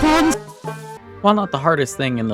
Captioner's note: Patapon Mission Failed Noise